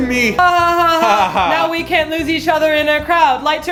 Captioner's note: they laugh nervously